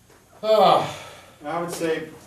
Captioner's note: sighs